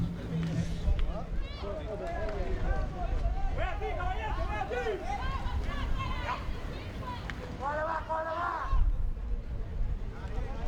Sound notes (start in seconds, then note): 2.9 players yelling in foreign language